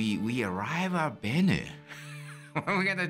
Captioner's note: laughs